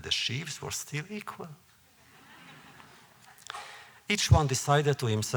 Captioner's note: laughter